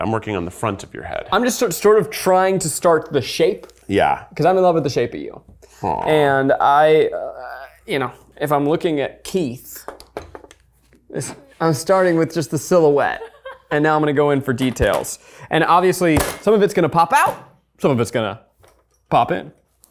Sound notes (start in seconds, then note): 13.0 laughs